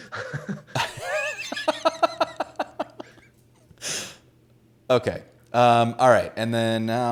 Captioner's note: laughs